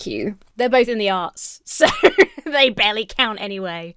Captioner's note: laughs